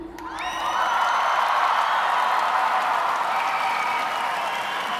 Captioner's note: applause